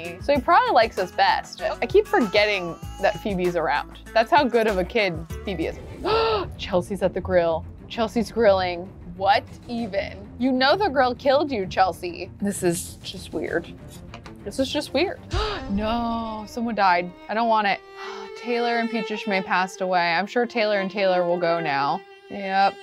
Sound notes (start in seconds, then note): 5.9 dramatic music; 6.0 gasps